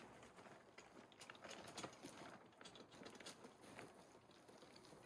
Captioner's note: wheelbarrow dragging